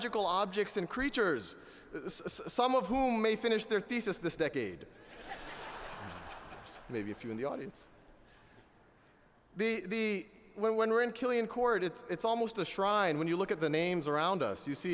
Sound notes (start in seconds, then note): 5.0 laughter